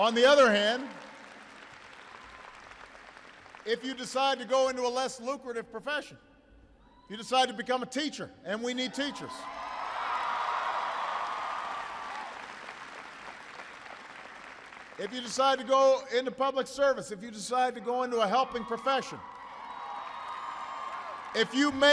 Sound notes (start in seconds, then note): 12.3 applause; 19.0 applause